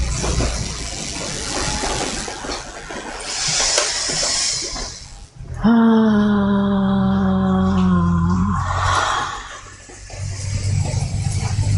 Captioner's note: deep breath